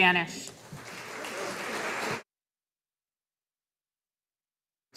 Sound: audience applauding

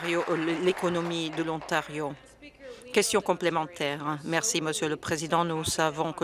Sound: applause

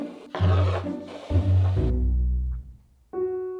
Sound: bowl sliding

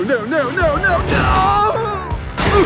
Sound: screams; grunt

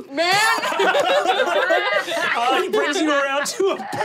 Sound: laughing

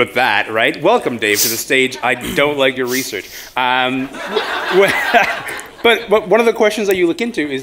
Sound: laughter

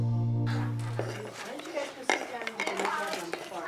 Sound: background chatter

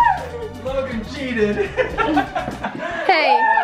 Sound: laughs

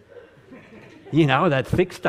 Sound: audience laughing

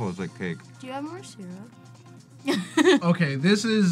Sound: laughs

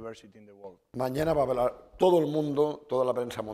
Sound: speaking spanish

